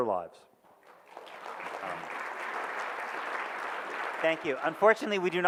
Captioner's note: audience claps